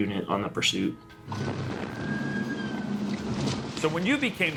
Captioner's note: sirens wailing